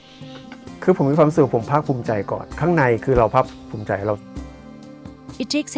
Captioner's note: speaking foreign language